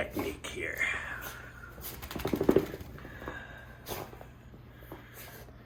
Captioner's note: dog snuffling noises